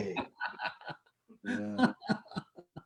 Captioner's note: laughter